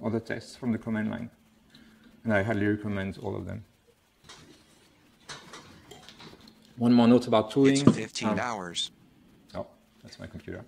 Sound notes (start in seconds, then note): 7.6 computer announcing the time